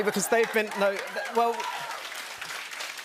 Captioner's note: cheers and applause